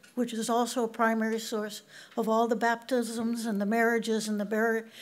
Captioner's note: none